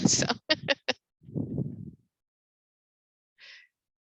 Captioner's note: chuckles